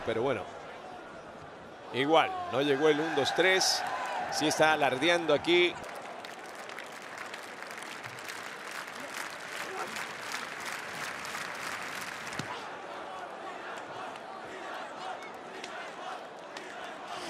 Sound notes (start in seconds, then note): 5.9 applause